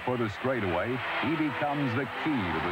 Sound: crowd roars

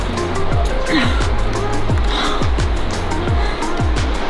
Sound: groans

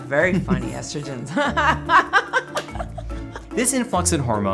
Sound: laughter

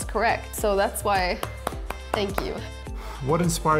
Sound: clapping

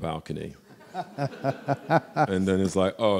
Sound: laughing

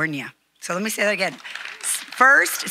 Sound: audience applauding

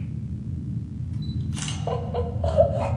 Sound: camera shutter snap

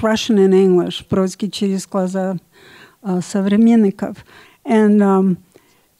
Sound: speaks in Russian

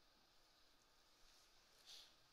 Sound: none

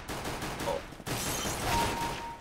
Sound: firing; glass shatters; kill chime

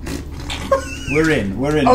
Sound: all laugh

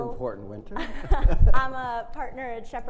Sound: both laughing

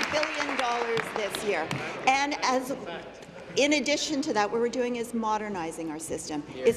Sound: applause

